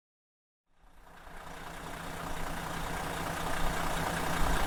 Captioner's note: engine revving